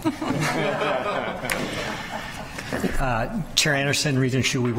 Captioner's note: people laughing